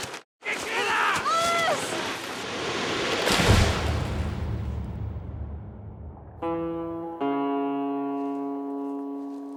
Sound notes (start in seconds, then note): 0.5 Eddy yelling; 6.4 melancholic music